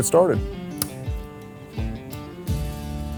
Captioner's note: switch clicks; gentle guitar music